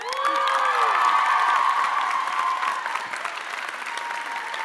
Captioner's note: audience applauding